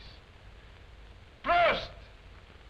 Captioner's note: non-english speech